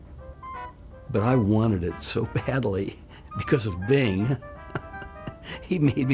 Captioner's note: laughs